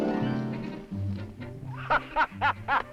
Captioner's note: diego laughing